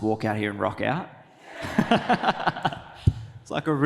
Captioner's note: audience laughs